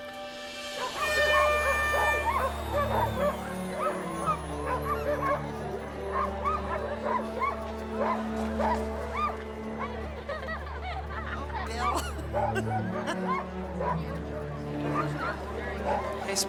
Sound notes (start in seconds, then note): 0.8 dogs barking; 1.0 air horn blaring; 3.4 crowd chattering excitedly; 14.3 chuckling